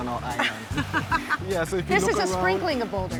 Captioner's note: laughs